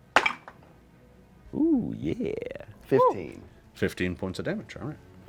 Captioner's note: dice roll